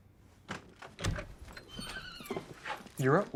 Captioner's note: door creaks open